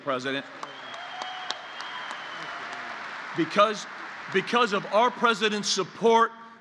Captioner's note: applause